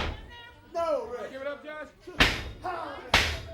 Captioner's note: crowd chatter